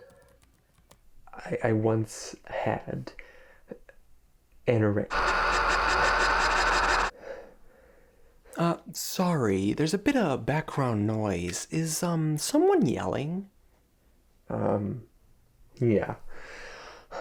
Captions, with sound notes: I once had anorex- (loud static) (heavy breathing) - Uh, sorry, there's a bit of background noise. Is, um, someone yelling? - Um, yeah.